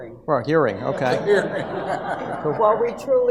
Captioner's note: audience laughs